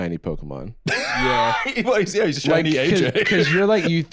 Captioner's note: laughs